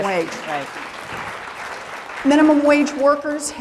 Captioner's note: applause